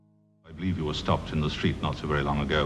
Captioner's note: voiceover